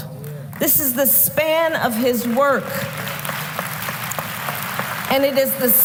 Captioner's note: applause